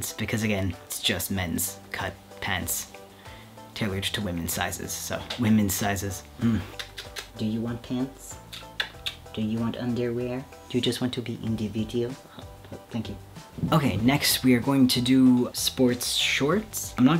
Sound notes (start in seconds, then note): 6.6 kissing cat